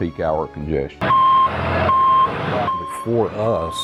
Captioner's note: loud beeping